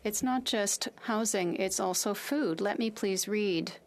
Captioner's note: speaking French